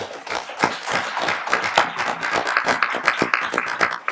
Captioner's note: applauding